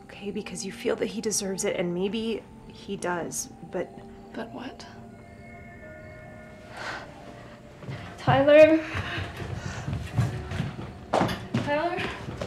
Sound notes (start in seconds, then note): 5.0 tense music; 6.2 Lucy scoffs; 9.1 footsteps retreating